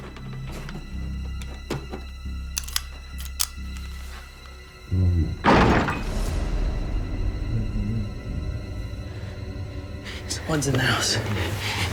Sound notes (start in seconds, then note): 2.5 gun cocking; 2.7 door slamming